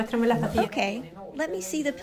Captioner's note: through translator